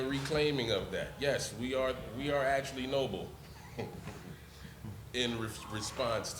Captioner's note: laughs